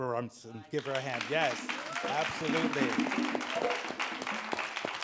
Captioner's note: audience claps